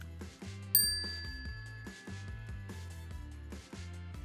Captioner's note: bell dings